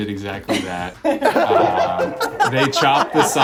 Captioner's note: laughing